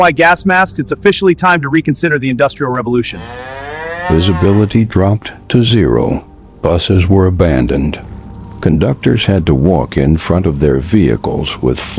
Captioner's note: sarcastic Commentary